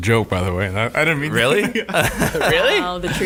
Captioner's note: laughing